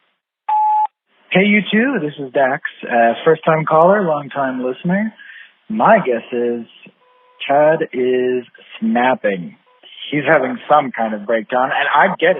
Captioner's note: sfx: beep, new message; phone message